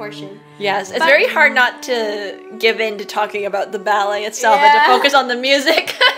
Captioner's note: laughs